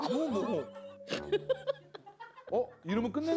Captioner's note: cracking up